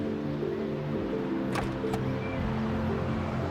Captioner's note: car door clicks open